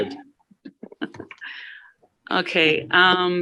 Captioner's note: laughs